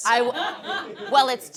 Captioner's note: audience laughs